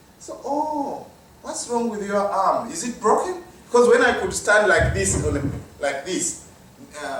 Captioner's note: microphone rustling